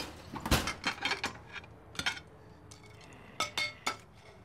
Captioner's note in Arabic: أصوات الأطباق